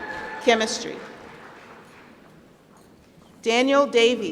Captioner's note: applause